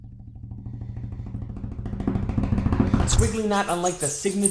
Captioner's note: finger tapping